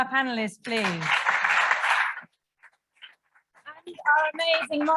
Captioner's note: audience applauds